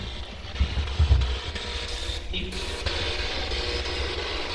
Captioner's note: static buzzing